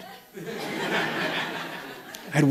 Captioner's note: laughter